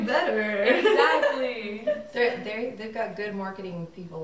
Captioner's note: laughs